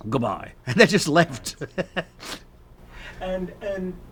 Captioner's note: laughs